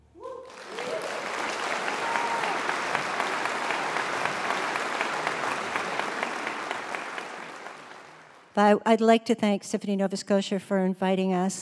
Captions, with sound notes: [Applause] I'd like to thank Symphony Nova Scotia for inviting us.